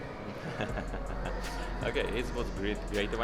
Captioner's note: laughing